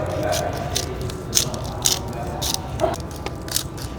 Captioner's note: background chatter